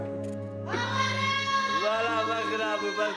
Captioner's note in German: Verzweifelte Rufe